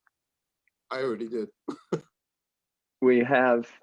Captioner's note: chuckles